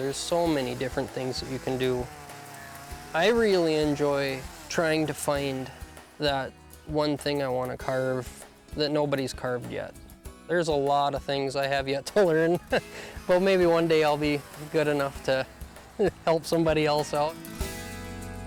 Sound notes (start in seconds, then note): 12.1 laughs